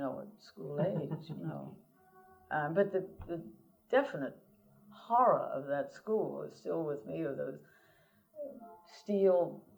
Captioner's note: laughter